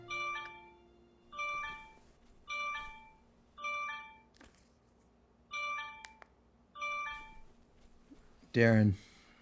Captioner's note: ringing